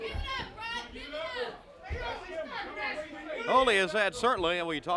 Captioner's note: crowd chatter